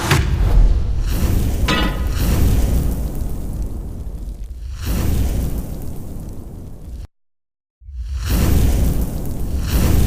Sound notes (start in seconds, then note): 1.6 clangs; 2.6 sizzles; 4.9 whooshes